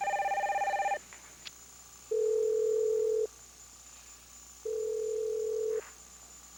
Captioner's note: telephone rings